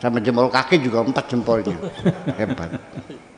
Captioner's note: laughs